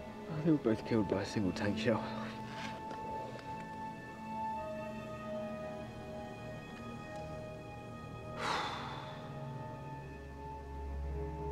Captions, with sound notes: They were both killed by a single tank shell. (Hatter exhales deeply)